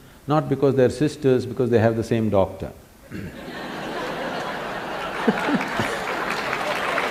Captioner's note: laughter/Applause; 笑聲/掌聲